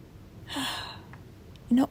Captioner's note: heavy sigh